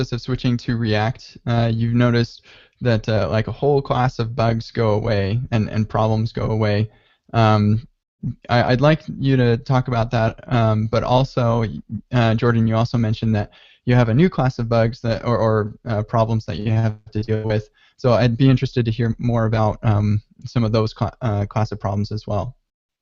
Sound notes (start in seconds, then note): none